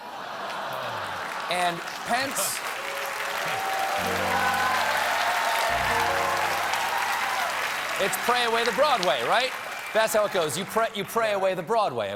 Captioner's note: applause